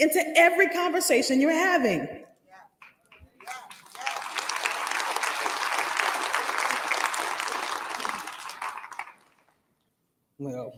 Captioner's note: applause